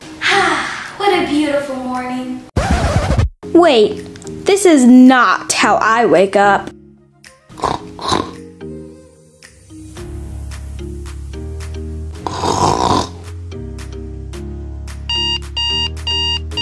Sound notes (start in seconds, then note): 0.2 sighs; 2.5 DJ scratch; 6.7 light music; 7.5 snoring; 8.5 light music; 12.2 snoring; 13.3 light music; 15.1 alarm beeping